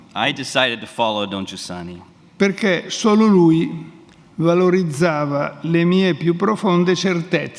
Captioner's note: speaks in Italian; speaks in Italian